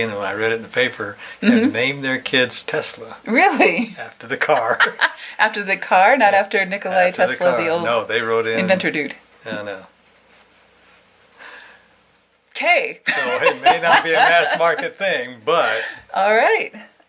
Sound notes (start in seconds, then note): 13.1 laughing